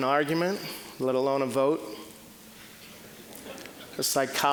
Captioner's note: scattered chuckling